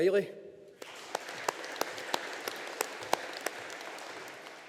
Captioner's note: audience applauding